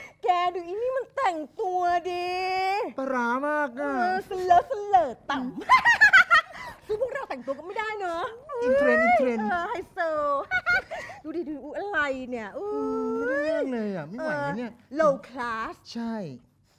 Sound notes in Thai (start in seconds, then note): 5.6 หัวเราะ; 10.4 หัวเราะ